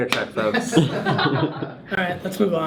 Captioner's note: laugh